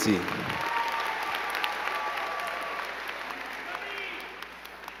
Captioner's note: crowd clapping